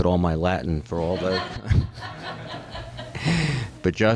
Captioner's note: laughter